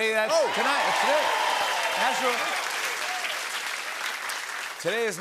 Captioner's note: cheering and applause